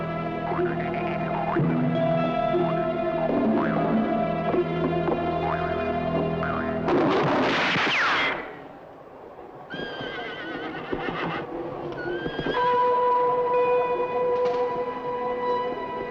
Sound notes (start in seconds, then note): 6.9 bullet ricochets; 9.7 horse whinnying; 11.9 eerie suspense music